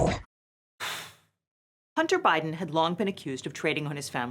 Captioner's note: exhales loudly